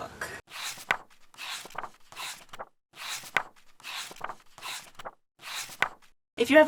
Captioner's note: pages turning